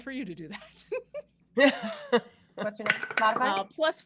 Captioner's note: all laughing